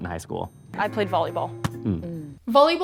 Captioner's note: both hum